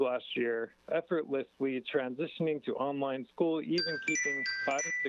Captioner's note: chime